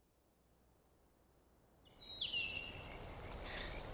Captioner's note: birds sing